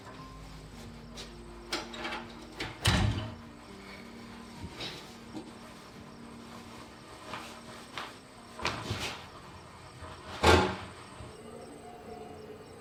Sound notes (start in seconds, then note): 1.7 door closes